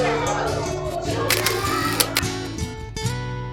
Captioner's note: camera flash